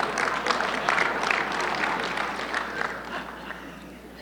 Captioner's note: audience laughing; audience clapping